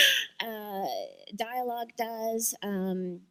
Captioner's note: chuckle